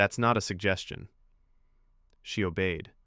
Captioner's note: pause